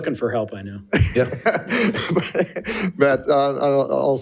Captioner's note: chuckles